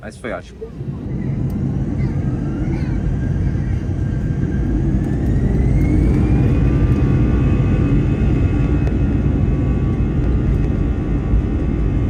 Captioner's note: airplane sounds